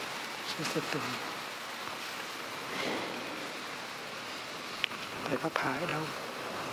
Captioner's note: Vietnamese